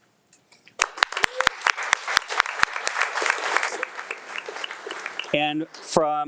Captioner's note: attendees clapping; claps